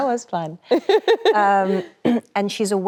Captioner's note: Emily laughs cheerfully